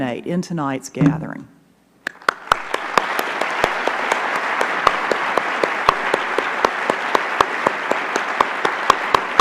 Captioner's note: applause